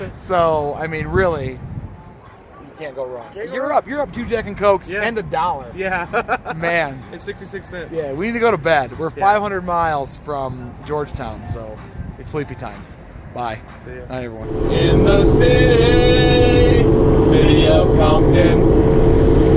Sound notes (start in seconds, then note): 6.0 laughs